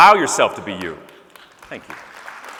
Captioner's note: scattered applause